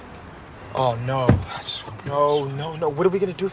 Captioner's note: muffled voice